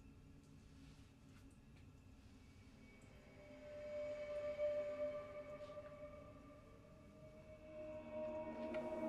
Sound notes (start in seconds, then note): 2.2 suspenseful noises continue